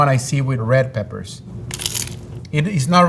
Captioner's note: mouth crunching